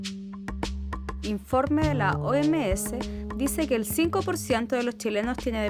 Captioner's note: speaking in foreign language